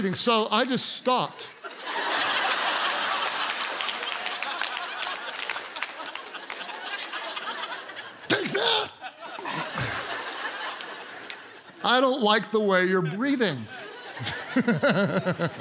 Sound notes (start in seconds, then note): 1.8 congregation laughs and applauds; 13.6 laughs